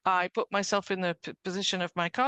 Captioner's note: speaking French